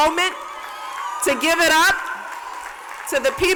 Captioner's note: cheers and applause